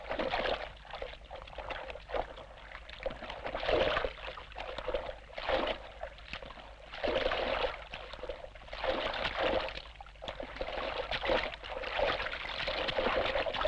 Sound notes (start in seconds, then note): none